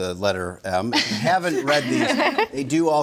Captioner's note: everyone laughing